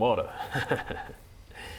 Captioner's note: laughs to himself